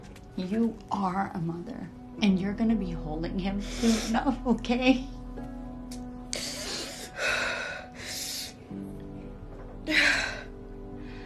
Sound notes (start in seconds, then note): 4.5 inhaling sharply; 6.3 exhaling sharply; 9.2 exhaling sharply